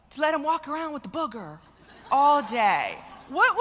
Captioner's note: laughter